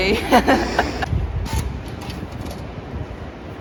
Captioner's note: laughs